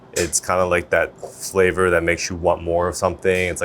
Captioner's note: none